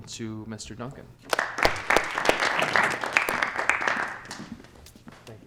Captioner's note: clapping